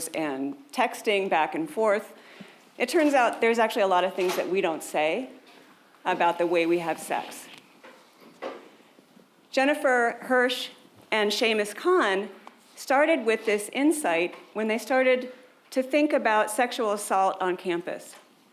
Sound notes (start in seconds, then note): 4.2 door shutting